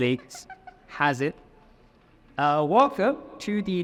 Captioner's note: laughing